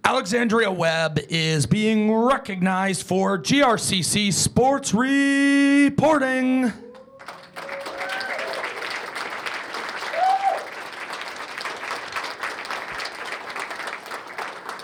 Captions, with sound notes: >> Alexandria Webb is being recognized for GRCC Sports Reporting. [CHEERS AND APPLAUSE]